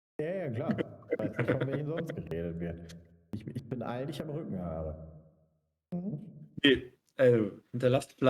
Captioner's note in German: gelächter